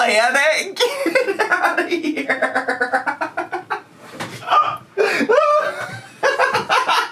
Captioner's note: laughing